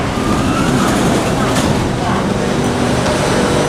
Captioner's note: train doors and platform doors unlocked